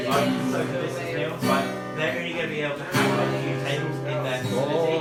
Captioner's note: accoustic guitar singer; group voices talking